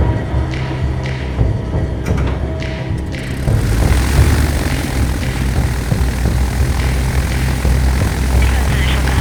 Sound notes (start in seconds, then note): 2.0 propellers start